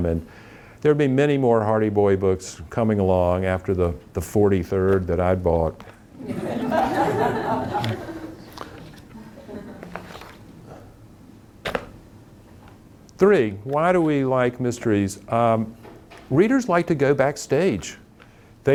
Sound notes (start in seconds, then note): 6.2 audience laughing